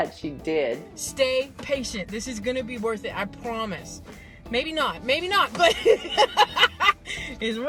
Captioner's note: laughs